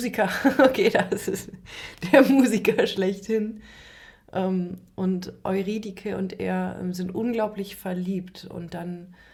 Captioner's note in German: gelächter